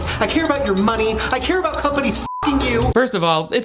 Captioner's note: beep